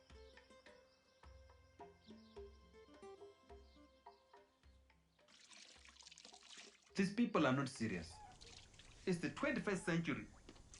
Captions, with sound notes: [water splashing] These people are not serious! It's the 21st century,